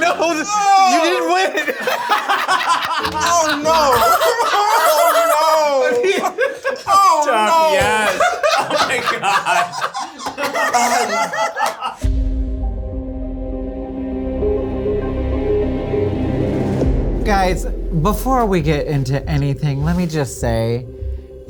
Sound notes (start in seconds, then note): 2.3 all laugh; 11.3 all laugh; 12.9 suspenseful music